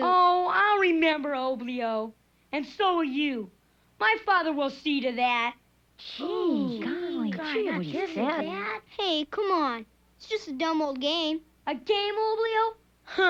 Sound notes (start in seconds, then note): 6.0 all chattering